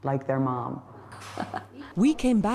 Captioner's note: laughter